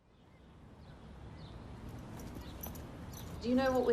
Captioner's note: birds chirp